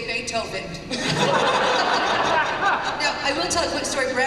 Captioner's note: laughter